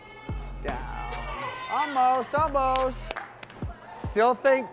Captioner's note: feet thud